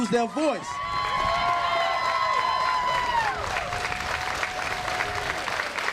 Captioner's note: crowd cheers and applauds loudly